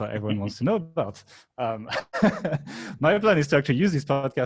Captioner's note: laughing